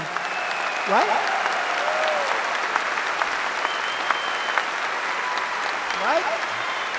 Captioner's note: applause